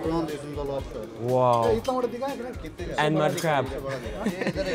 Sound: laughs

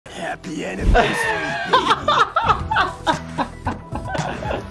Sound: laughs

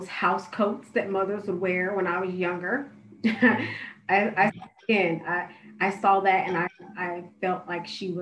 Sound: laughter

